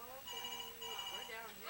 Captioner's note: phone ringing